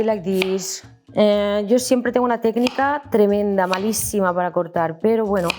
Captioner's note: speaks in Spanish